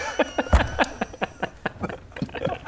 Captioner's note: violent laughter